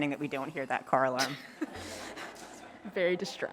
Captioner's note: laughter